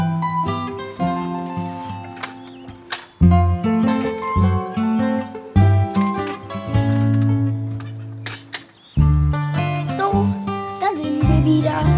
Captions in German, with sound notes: (Klappern) So, da sind wir wieder.